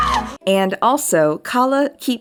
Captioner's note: Kala screaming